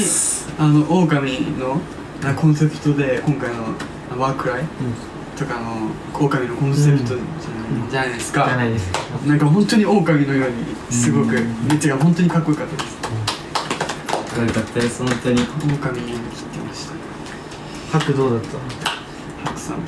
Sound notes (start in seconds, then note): 13.5 clapping